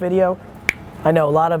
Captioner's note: snaps fingers